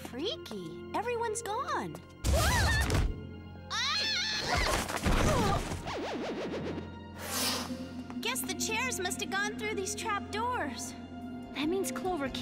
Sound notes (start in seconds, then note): 3.7 screams